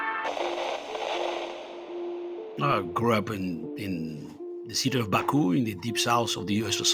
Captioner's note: soundbite of static